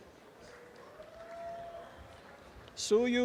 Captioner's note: cheering